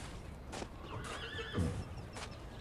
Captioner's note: horse neighing